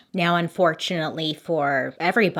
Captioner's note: none